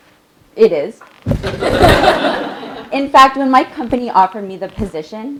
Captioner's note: laugh